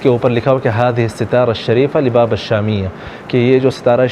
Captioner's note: Arabic